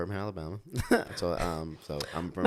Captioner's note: laughs